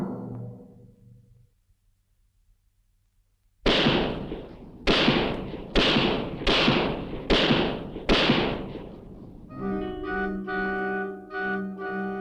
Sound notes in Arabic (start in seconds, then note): 3.6 اطلاق النار بالبندقية; 9.4 موسيقى مشؤومة